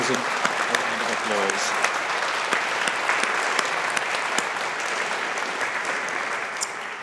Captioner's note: audience applauding